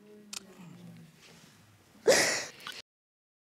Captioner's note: sobs